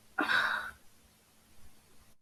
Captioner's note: sighing